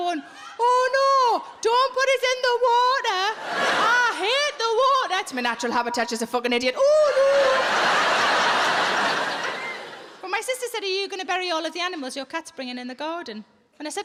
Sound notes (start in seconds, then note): 7.2 audience laughs